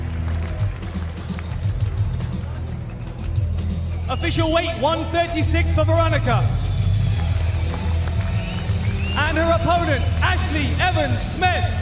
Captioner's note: cheers and applause